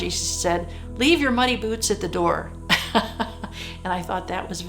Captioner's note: laughs